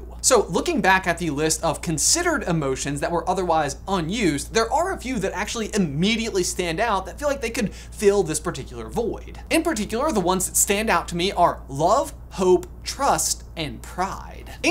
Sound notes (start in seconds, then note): none